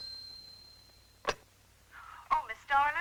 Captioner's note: phone ringing